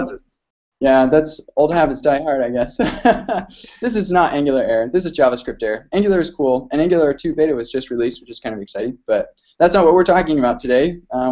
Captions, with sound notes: Yeah, that's old habits die hard, I guess (laughs). This is not Angular Air. This is JavaScriptAir. Angular's cool, and Angular Two Beta was just released, which is kind of exciting, but that's not what we're talking about today.